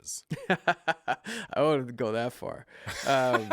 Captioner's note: laughs